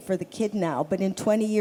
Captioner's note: none